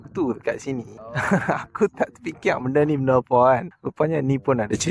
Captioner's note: laugh